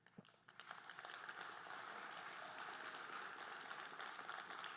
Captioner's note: audience applauding